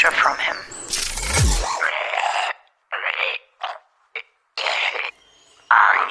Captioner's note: cackling and gagging